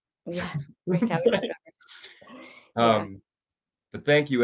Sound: they chuckle

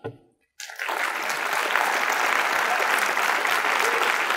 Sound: audience applauds

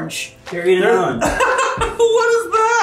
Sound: laughing

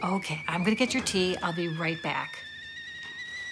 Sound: tea kettle whistling

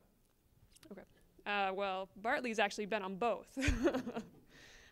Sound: laughter

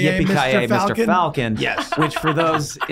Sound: laughing

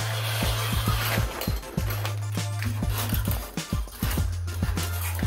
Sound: curtains closing

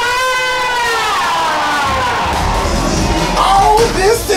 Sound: crowd cheers

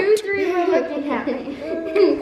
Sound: laughs

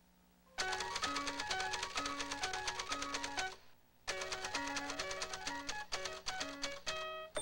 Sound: typing; typewriter playing like piano

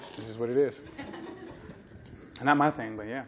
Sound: laughter

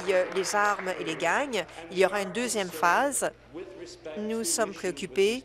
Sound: applause

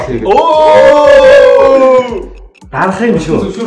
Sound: ohhh

